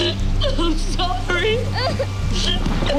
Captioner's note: crying